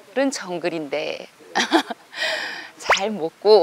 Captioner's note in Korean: 웃음